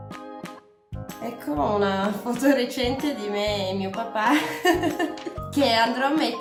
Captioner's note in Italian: risata